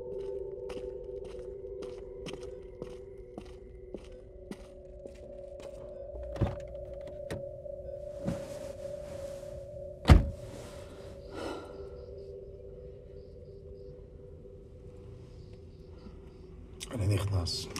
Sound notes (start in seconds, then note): 6.3 car door opens; 11.3 sighs